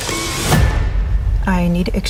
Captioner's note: intense music; bag slams